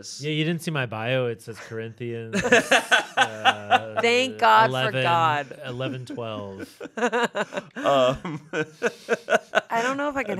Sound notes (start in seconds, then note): 2.9 laughing; 6.3 chuckling; 8.2 laughing